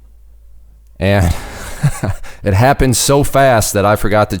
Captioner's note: laughing